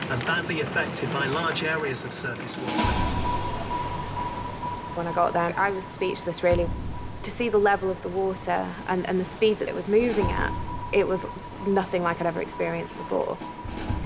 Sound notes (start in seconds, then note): 2.6 intense music; 2.6 water whooshing